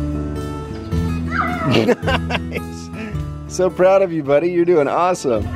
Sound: laughs

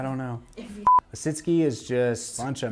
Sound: electronic beeping

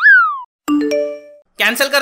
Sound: phone chimes

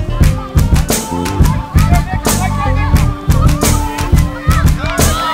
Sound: sighs

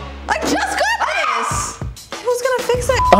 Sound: screams; beep

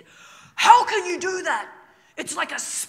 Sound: imitating Joe

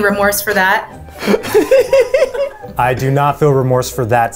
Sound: laughing

